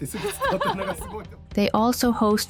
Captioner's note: laughter